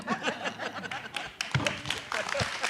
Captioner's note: group laughing; audience applauding